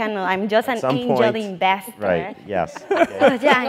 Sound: laugh

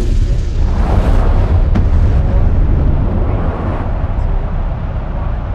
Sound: rocket blasting

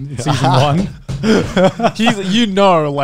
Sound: everyone laughs

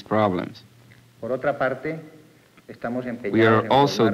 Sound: speaking Spanish

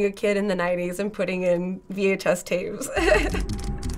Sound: giggles

